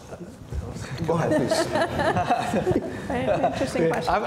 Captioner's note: laughs